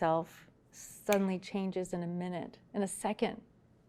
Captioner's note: fingers snapping